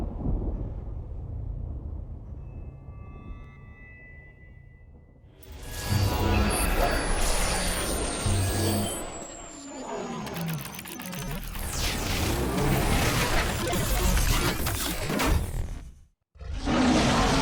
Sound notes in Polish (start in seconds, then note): 0.0 trzask ôd pierōnu; 3.6 niypogodne echo